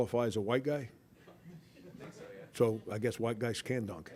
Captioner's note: laughter